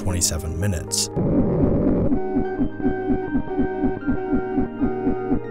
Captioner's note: warped audio playing